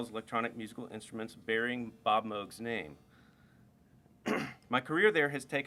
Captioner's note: clears throat